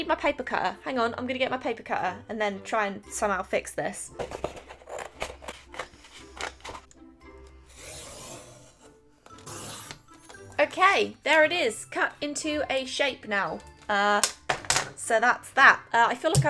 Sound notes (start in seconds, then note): 4.3 loudly cuts paper